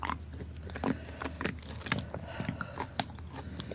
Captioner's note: squishy swallowing; crunching